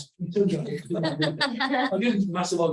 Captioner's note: audience laughs